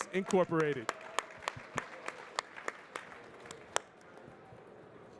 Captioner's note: audience clapping